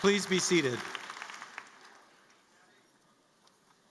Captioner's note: applause